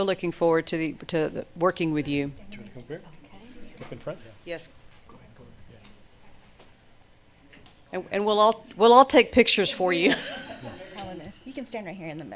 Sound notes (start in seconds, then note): 3.1 people chatter; 10.0 all laugh